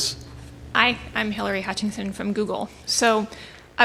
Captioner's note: voiceover